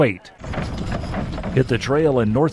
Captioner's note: horse hitch rattling